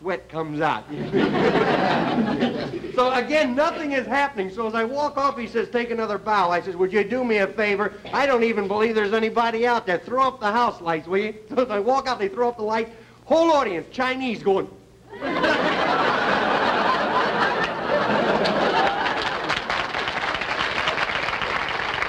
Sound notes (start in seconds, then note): 12.3 audience laughter; 16.5 applause